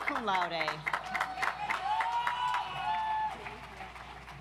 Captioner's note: audience applauds